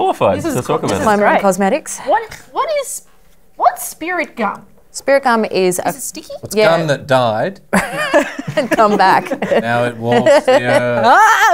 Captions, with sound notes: - Diploma in Cosmetics. - What is -- what's spirit gum? - Spirit gum is a-- - Is it sticky? - It's gum that died. (laughter) -Come back. (laughter drowns out speech)